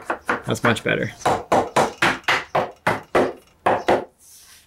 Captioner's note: hammer banging